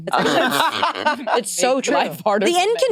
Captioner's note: participants laughing